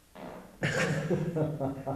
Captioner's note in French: rires